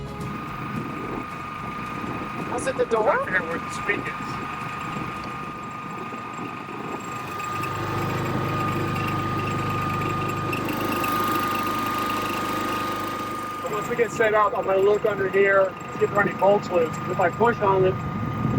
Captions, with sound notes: (generator whirring) Was it the door? - I forgot where the spigot is. (generator rumbling) Once we get set up, I'm gonna look under here, see if there are any bolts loose. But if I push on it,